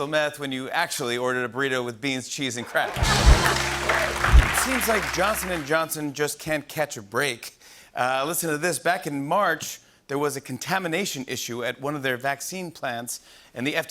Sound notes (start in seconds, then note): 3.3 laughter